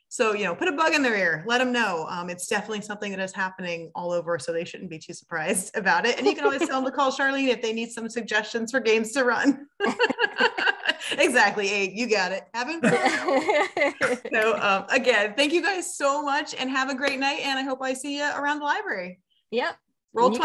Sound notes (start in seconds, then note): 12.8 both laughing